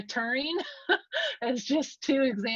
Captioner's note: laughs